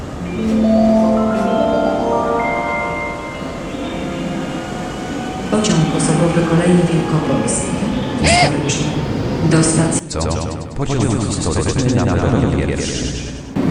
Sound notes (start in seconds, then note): 0.2 railway Station Announcement